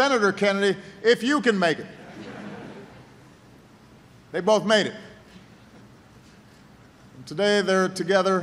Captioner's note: laughter